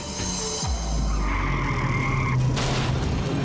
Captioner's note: tires screeching, thuds